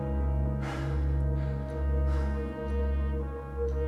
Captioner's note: sighs